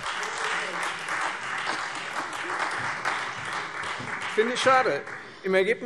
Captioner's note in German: Beifall Freie Demokraten und vereinzelt SPD